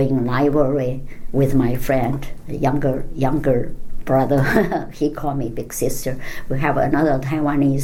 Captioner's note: laughs